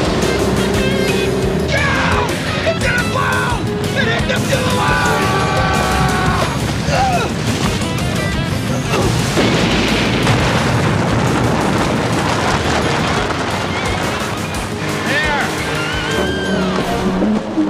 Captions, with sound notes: GO! IT'S GONNA BLOW! -[SCREAMS] -THERE!